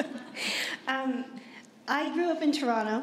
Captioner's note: chuckle